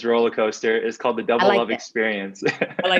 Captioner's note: laughs